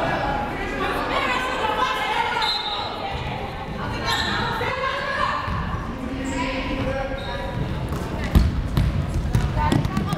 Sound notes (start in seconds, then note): 2.4 whistle blowing